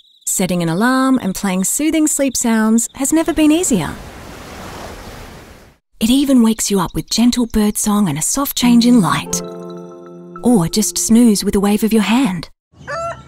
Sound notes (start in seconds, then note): 3.6 waves crashing; 12.8 rooster crowing